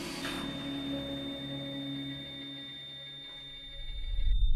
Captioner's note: continuous tone